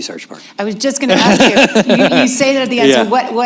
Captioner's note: laughter